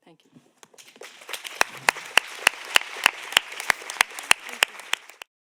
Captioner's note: audience applauding